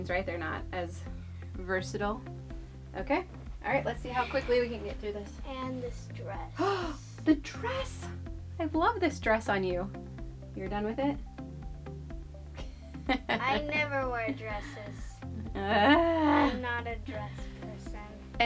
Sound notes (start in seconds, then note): 6.6 gasps; 13.0 laughs; 15.5 groans